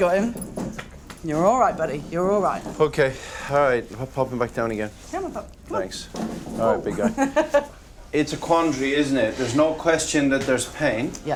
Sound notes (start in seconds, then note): 6.9 laughing